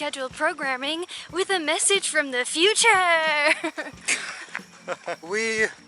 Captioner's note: laughter